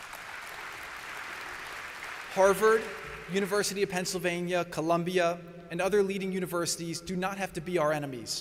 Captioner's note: applause